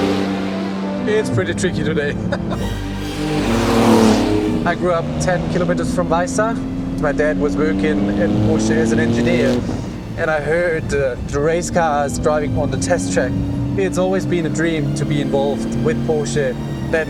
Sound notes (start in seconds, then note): 0.0 engine revs; 1.2 laughs; 3.2 engine revs